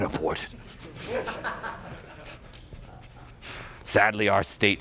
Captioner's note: audience laughing